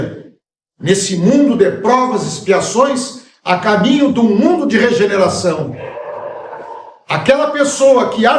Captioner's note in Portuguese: gemido